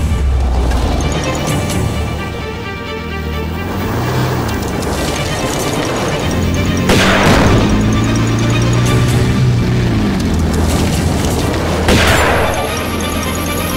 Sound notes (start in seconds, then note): 0.6 car passing; 4.5 Lara's car passing; 6.7 exploding tire; 6.8 huge shotgun blast; 8.0 heavy engine sounds; 11.8 huge shotgun blast